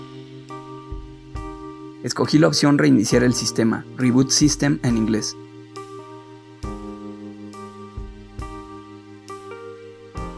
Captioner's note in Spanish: Reeboot system, en inglés